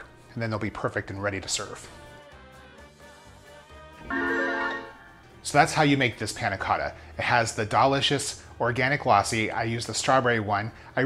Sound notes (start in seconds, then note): 2.2 lively music; 4.1 gentle chimes